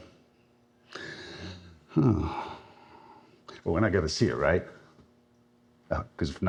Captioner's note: sighs